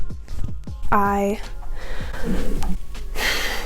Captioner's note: loud cough downstairs